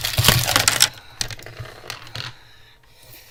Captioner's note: heavy Breathing from the recently expressed rage